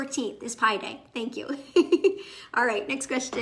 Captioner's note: chuckling